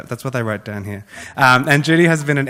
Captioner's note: laughs